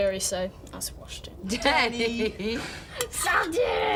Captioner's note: laughs